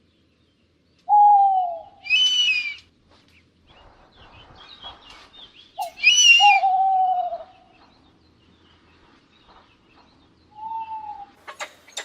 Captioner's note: sounds of predatory birds